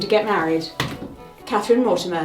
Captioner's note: pointer thuds